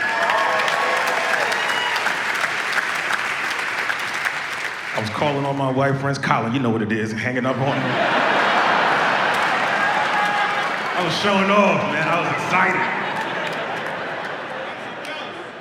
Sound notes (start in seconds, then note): 0.0 audience applauds and cheers; 9.3 audience laughs